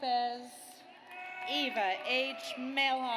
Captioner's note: audience cheers